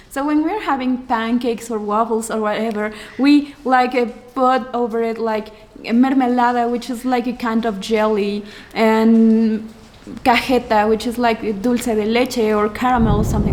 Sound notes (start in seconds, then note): none